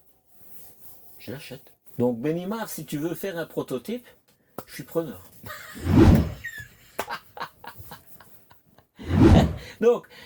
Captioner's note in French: rires